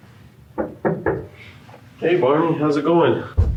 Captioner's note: door knocking